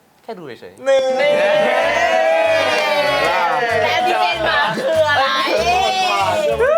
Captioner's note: friends shout out